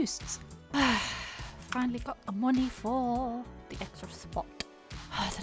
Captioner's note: sighs; sighs